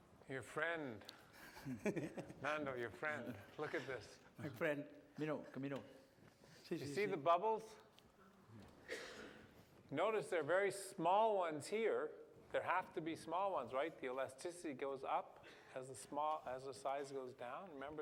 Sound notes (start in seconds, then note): 1.3 laughs